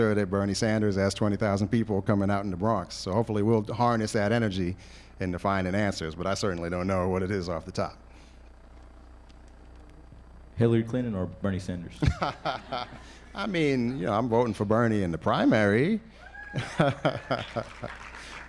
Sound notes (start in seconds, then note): 12.0 laughter; 16.3 applause